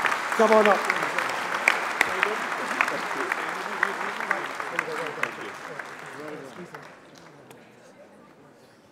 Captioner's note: applause